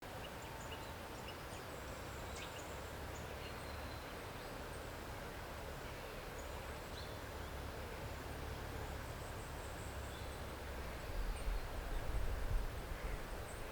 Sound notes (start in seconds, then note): 0.0 sounds of birds and the wind in the trees